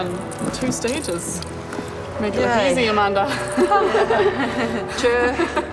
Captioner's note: laughter